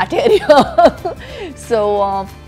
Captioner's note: laughs